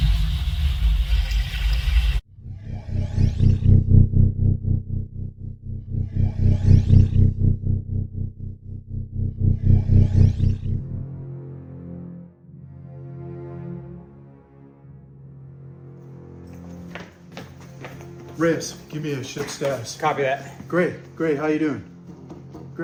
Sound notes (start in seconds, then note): 0.2 ominous atmospheric music; 3.5 eerie atmospheric music; 16.5 shoes clacking